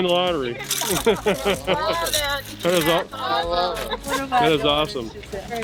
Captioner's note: group laughing